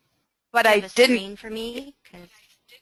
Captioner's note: voiceover